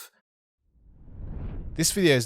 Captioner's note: swooshing